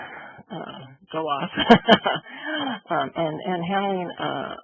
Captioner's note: laughs